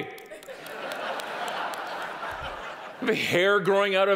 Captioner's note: audience applauding